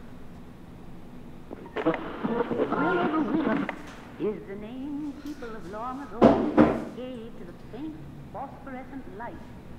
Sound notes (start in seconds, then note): 1.4 radio tuning